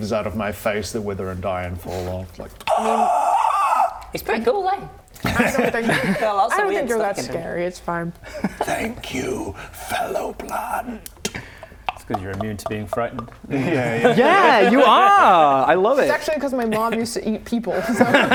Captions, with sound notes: out of my face that wither and die and fall off like *death rattle* he's pretty cool aye? I don't think got lots of weird stuff I don't think you're that scary it's fine thank you fellow plant - *ck-ck-ck-ck-ck-ck* - it's cos you're immune to being frightened yeah yeah yeah you are! I love it it's actually cos my Mum used to eat people so